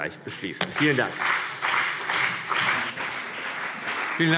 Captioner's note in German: Beifall CDU und BÜNDNIS 90/DIE GRÜNEN